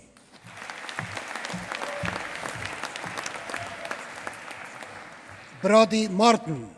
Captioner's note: applause